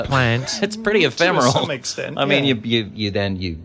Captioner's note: laughs